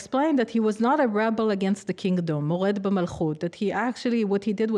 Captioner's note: speaking arabic